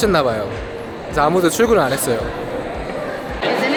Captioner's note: haha